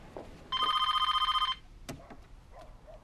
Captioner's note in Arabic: هاتف RlNGlNG